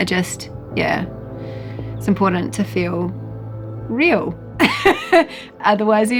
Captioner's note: laughs